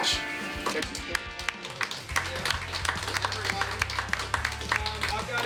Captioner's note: clapping